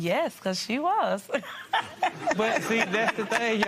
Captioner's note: laughs